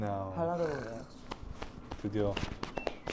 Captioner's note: clap clap clap